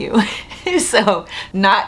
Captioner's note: chuckles